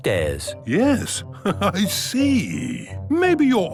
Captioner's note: chuckling